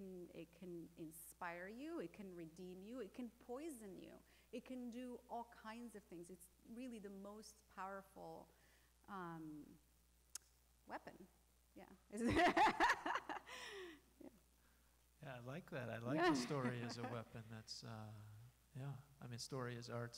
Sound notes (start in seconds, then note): 12.2 laughing